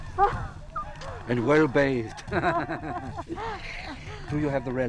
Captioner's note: laughing